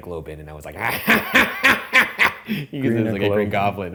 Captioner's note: laughing